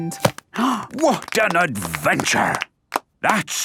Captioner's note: applause